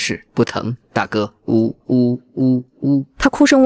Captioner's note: sobs